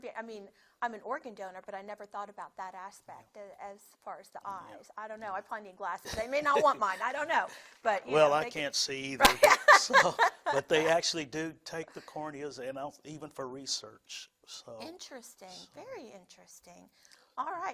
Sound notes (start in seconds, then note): 9.2 laughing